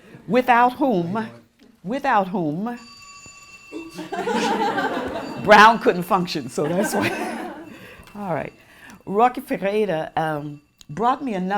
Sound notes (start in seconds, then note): 2.8 phone rings